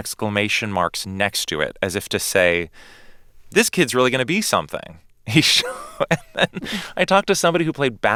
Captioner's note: laughter